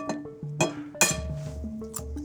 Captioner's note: egg cracking